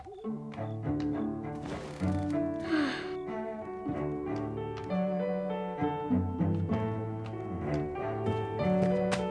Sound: sighing

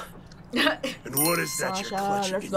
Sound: bell dings

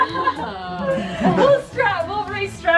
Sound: laughs

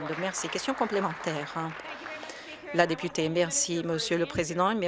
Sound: some Applause

